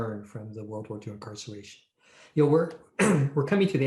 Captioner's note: clears throat